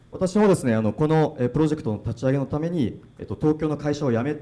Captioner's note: speaking foreign language